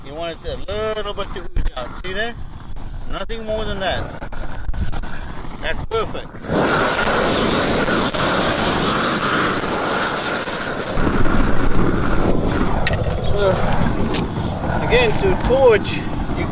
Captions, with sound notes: you want it a little bit to ooze out. See that, nothing more than that. That's perfect. (air whooshes against plastic) (air whooshes) Again, to torch,